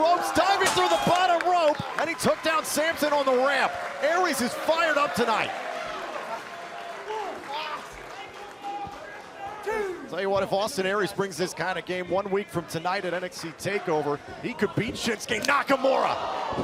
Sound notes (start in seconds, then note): 5.1 crowd cheering